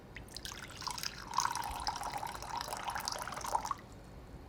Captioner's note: water glugging